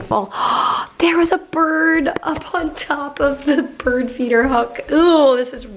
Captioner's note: gasps